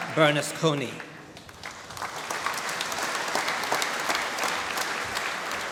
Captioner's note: applause